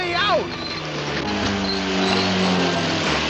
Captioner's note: BUZZlNG